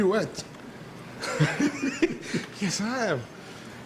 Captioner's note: both laugh